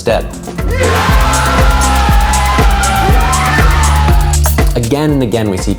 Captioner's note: cheering